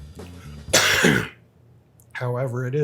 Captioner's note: coughing